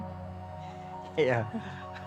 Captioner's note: chuckles